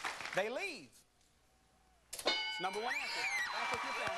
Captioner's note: bell dinging